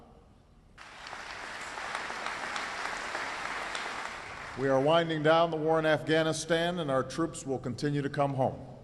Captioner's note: applause